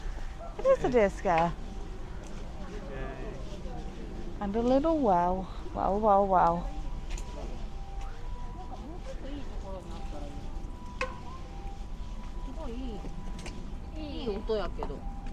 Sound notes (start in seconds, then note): 11.0 deer scare tocks